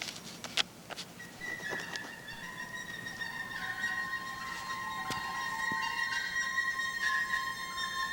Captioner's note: squeaking noises